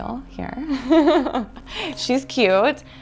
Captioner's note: laughs